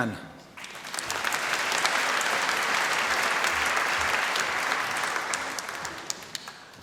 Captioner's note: applause